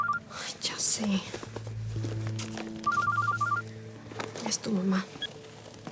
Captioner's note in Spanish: suena el celular